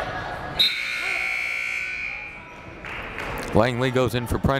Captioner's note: buzzer blaring